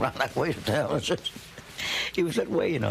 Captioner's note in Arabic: يضحك